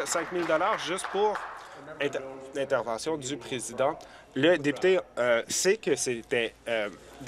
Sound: voice trailing

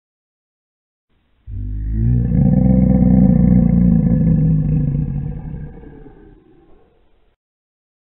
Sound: ominous dragon growl

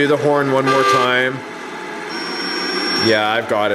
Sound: horn honks

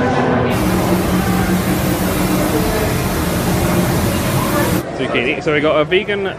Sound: hiss and rumble of machinery

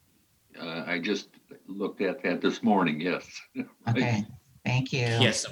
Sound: chuckles

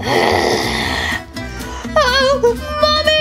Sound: Mummy Snarls

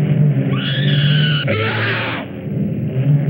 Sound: screams

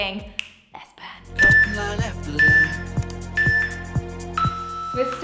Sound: beeping sound

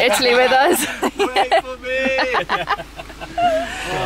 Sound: laughing

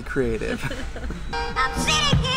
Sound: laughs

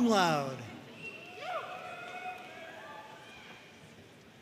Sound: audience cheering

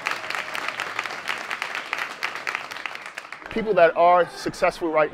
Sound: cheers

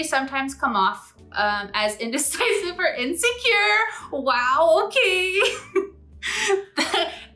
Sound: laughs

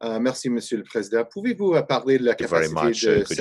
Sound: speaking in French

